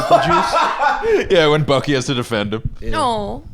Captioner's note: laughs